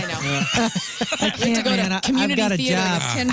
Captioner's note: laughing